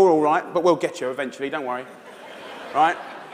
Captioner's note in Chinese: 笑聲